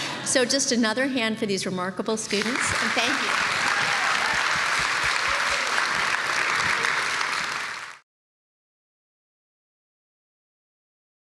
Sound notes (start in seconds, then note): 4.1 applause